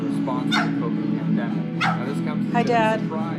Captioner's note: loud guitar music; dog barking